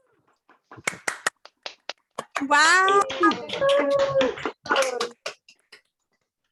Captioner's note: applause